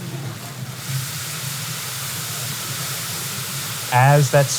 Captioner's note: food sizzling